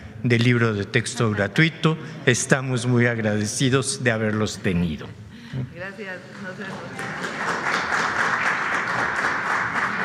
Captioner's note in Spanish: aplausos